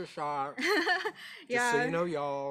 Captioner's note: laughing